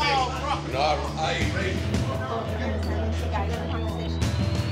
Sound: customers chatting; tense music continues

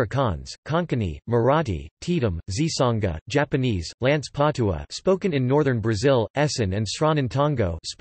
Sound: spoken in northern Brazil

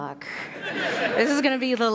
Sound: laughter

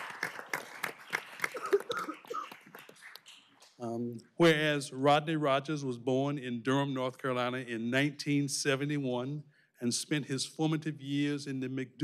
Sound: applause

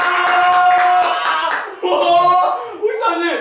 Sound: almost crying

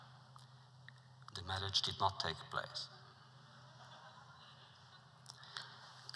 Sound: laughter

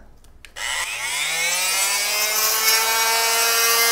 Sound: drilling sound

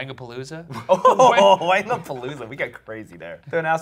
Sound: laughing

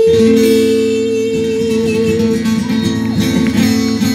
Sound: claps

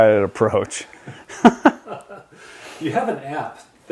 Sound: laughs

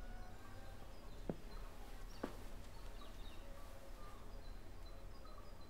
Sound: birds chirping sound

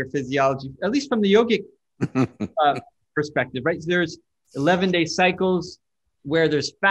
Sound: Sadhguru laughs

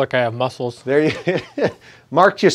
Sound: chuckles

